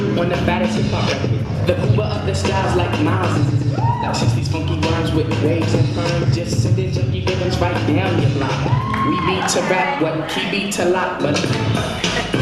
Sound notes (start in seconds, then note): 6.2 intermittent cheers